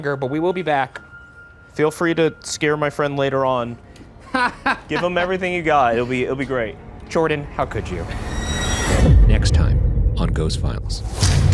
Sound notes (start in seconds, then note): 4.2 Ryan laughing; 8.5 ominous music